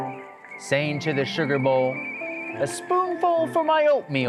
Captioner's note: tea pot whistling